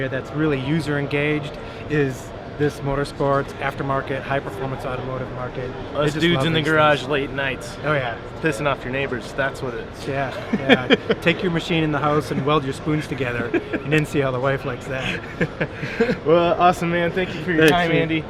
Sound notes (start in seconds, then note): 10.3 laughs